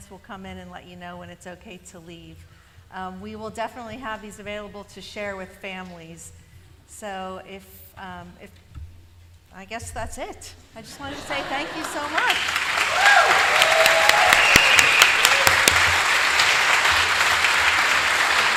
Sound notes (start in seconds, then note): 10.8 laughter; 11.6 applause